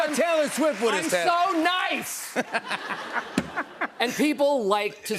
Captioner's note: laughter